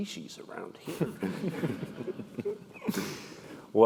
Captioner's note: laugh